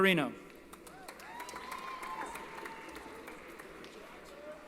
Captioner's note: applause & Cheering